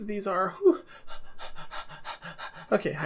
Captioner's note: heavy breathing